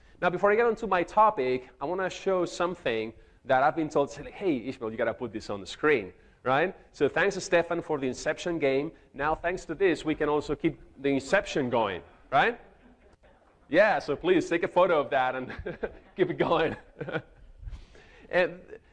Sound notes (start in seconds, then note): 12.1 audience laughs; 15.3 laughs